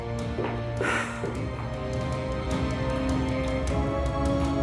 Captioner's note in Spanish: suspiros